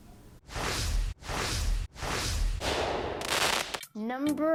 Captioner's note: air whooshing; firecracker crackling